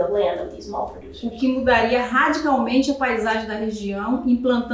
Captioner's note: speaking portuguese